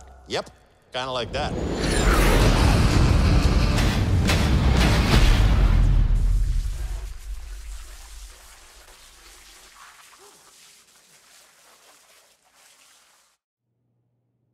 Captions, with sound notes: - Yep, kind of like that. [music: high energy] [water sounds]